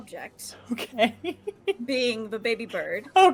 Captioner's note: laughing